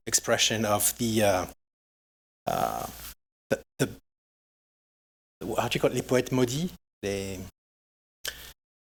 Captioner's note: french